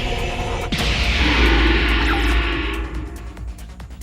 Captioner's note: haunting moans; metallic roar